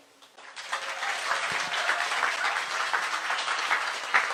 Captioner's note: applause